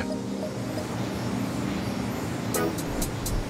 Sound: air whooshing; light music

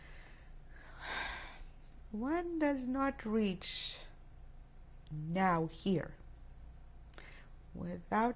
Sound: sighs

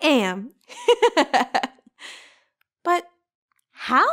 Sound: girl giggles

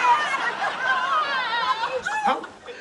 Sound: cheering

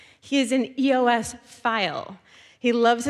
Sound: none

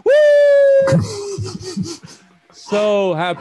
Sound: laughter

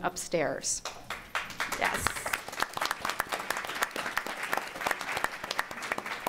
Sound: applause

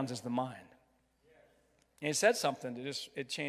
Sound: crowd

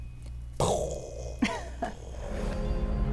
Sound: laughs; ominous music

